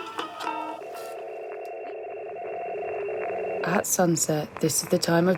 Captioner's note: warbling tones